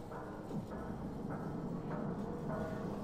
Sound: none

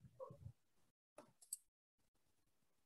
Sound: mouse clicks

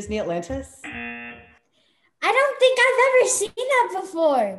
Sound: buzzer

